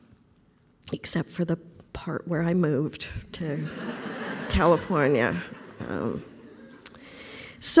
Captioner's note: laughter